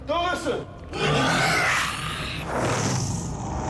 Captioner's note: roars